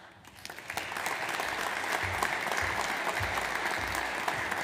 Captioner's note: audience applauds